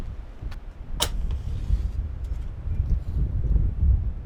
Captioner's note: match flicks